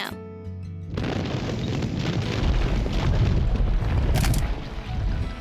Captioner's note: volcano booming